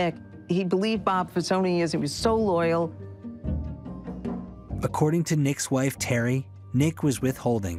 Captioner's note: none